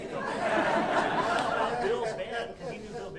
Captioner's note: audience laughing